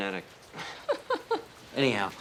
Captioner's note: partner laughs